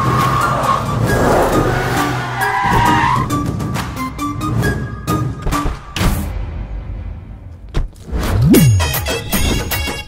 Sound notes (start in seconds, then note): 2.5 brakes squeak